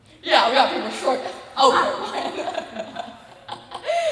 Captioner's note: laughs